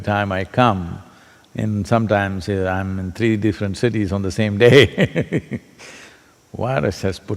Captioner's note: laughs